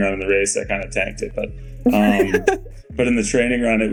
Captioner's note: Mikaela laughing